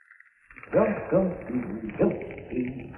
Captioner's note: humming